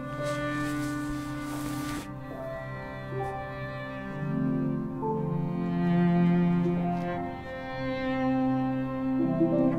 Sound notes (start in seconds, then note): 0.1 swimsuit rustling